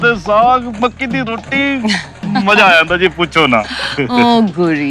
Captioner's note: Sheena laughing